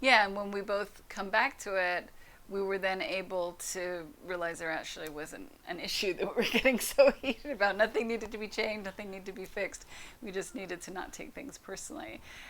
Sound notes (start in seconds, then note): 6.2 laughs